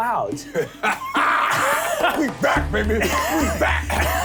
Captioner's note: laughs